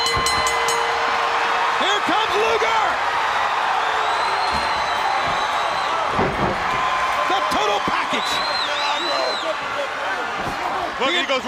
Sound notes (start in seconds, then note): 0.0 bell ringing; 3.3 crowd cheering